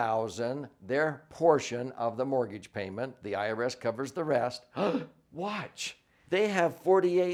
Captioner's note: gasps